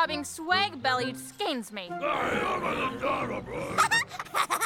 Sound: growling; laughing

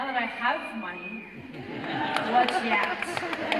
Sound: audience laughter; applause

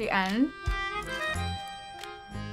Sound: crunching

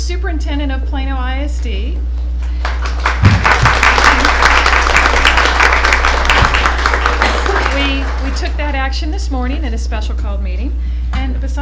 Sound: applause

